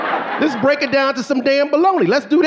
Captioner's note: audience laughing